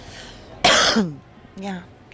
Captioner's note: coughing